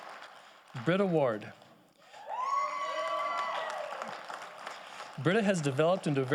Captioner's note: audience applauding